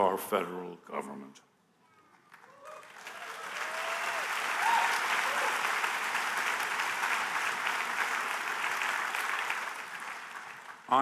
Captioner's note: applause